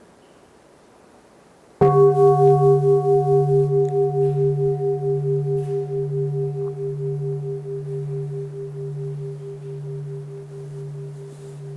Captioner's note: bell